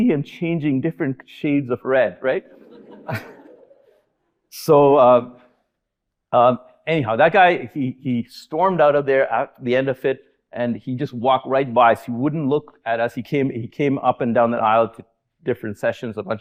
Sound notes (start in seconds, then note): 2.2 audience laughing